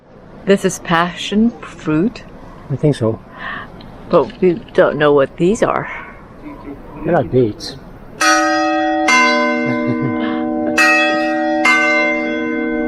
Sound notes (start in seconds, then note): 8.1 sound of church bell tolling